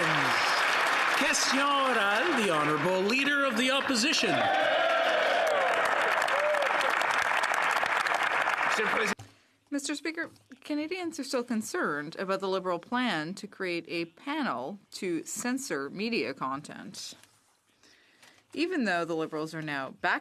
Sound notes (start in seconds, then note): 0.0 some Applause; 4.2 speaking French; 7.5 some Applause